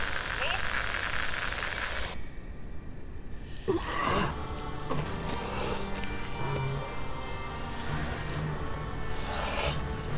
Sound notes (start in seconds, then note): 0.0 phone line crackling; 4.4 melodic orchestral music